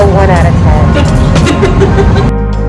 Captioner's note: laughs